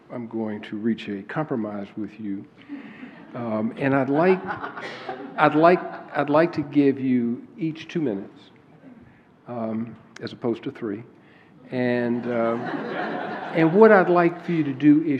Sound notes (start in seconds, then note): 4.1 laughter; 12.1 laughter